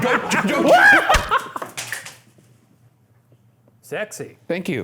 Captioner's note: splats